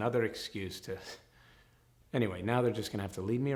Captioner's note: scoffs